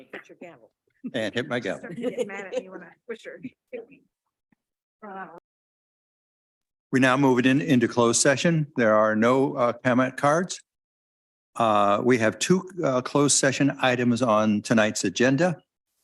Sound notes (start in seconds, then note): 2.7 audio warps; 2.7 chuckles